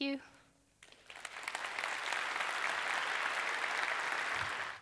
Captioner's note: audience applauds